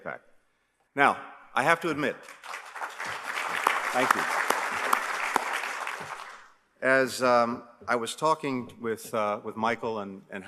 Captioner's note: applause